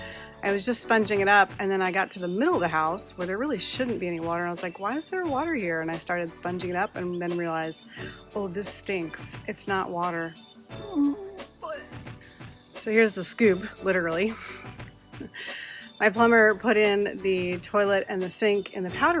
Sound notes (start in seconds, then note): 10.8 puking sound